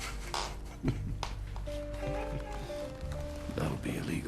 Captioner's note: chuckling